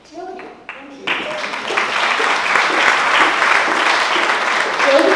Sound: applause

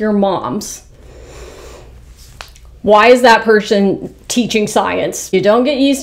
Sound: inhales

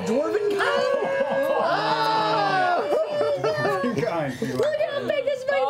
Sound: yelling

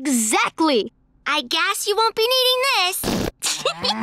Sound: farting noise; laughing, groaning

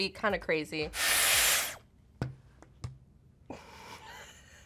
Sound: hair tool whooshes; influencer chuckles

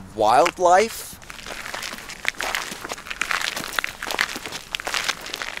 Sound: footsteps crunching

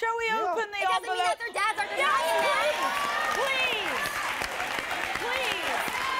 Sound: applause

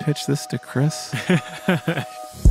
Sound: laughter

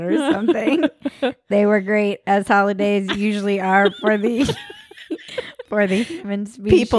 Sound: laughing

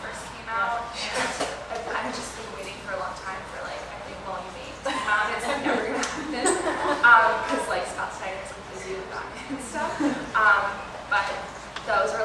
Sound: laughter

